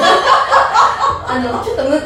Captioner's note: haha